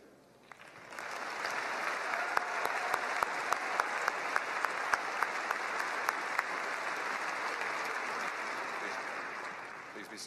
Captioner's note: applause